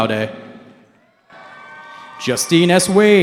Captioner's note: cheering